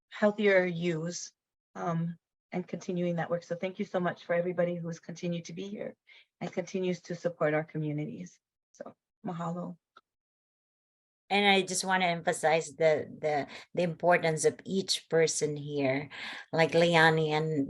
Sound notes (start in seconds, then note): 8.9 speaks in foreign language